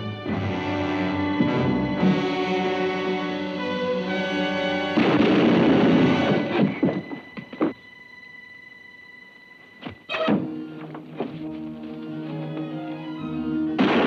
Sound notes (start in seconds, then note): 0.0 dramatic music; 5.0 shotgun booms; 11.8 exciting music; 13.8 guns bang; 13.8 exciting music